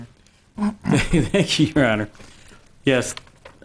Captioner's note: laughs